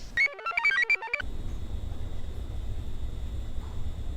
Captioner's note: device buzzes; computer chirps